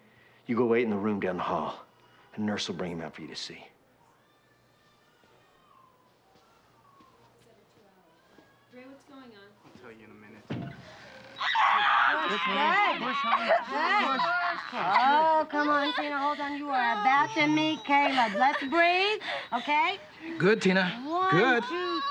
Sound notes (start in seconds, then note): 11.3 screaming